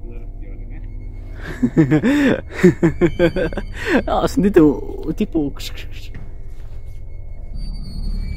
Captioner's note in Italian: Risate